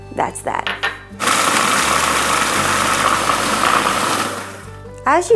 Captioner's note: blending sound